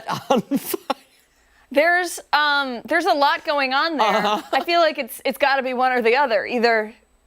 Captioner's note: laughter